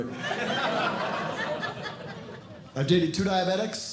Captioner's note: audience Laughing